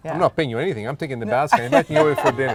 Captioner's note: laughing